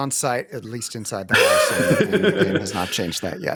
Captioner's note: laughs